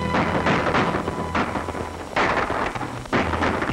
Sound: gun shots

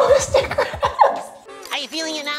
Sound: laughs

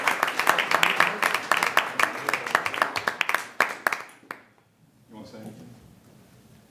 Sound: applause

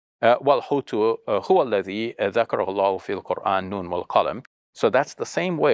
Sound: speaks foreign language

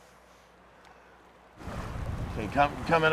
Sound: water flowing

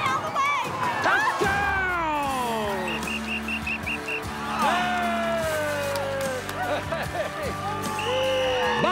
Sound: whistling and cheering

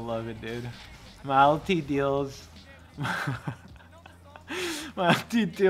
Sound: laughs

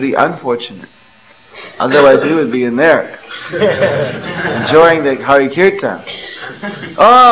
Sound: laughter

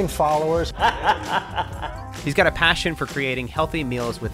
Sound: laughs

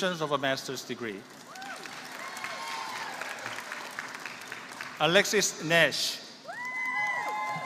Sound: applause

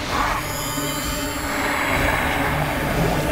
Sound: whirring

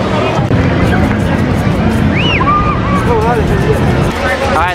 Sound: beach sounds

